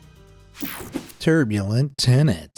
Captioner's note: swishing